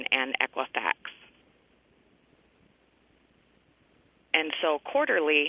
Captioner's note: pause